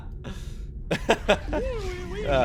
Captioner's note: laughs